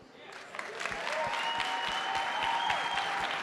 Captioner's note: applause